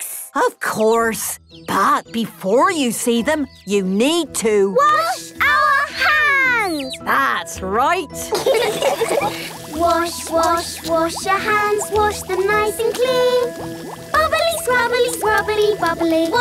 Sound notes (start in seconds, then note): 8.3 all laughing